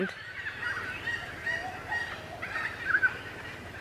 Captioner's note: birds calling